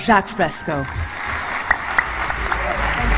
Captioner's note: applause